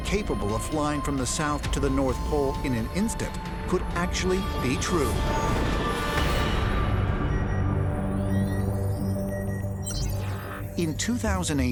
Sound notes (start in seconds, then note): 7.0 beeping